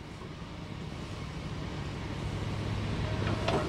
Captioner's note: backhoe sounds